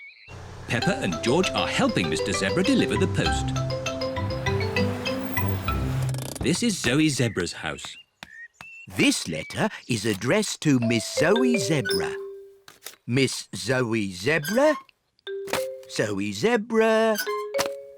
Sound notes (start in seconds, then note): none